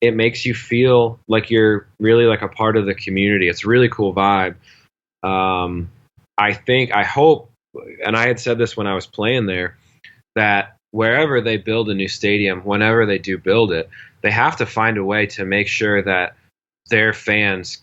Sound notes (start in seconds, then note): none